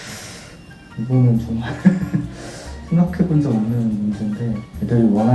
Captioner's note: heavy sigh